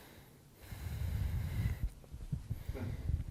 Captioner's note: sighs